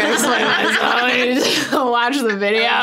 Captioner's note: everyone laughs